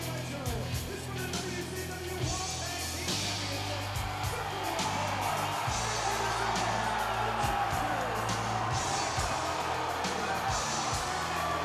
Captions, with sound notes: This for the WCW World Tag Team championship. (crowd cheering) (upbeat music)